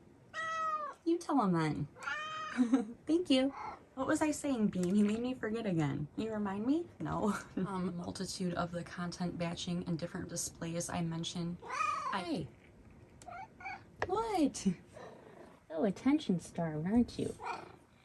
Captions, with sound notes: [Meows] You tell 'em then! [Meows] Thank you! [Purrs] What was I saying, Bean? You made me forget again. Can you remind me? No. A multitude of the content batching and different displays I mentioned... [Meows] Hi! [Whiny meow] What? [Purrs] So attention starved, aren't you? [Meows in agreement]